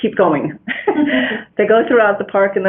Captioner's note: laughter